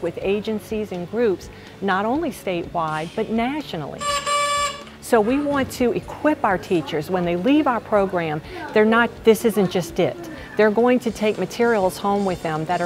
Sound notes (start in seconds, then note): 4.0 car honking